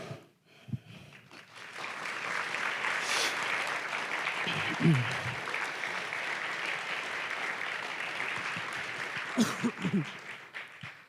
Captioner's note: applause